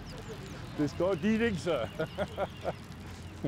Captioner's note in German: Er lacht